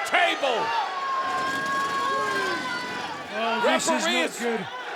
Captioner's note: table rattles